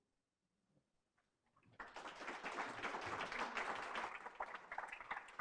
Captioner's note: applause